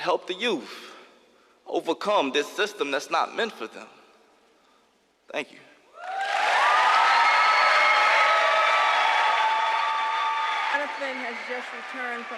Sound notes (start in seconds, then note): 6.0 applause